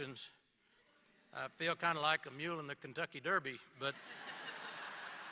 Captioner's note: laughter